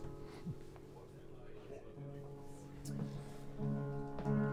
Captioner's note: Bill chuckles